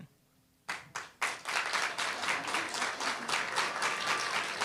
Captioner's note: applause